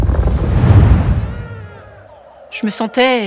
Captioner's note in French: Grognements; Pleurs